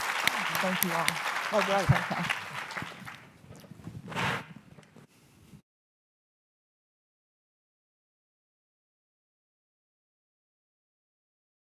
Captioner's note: applause